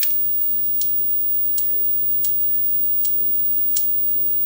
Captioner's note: clicking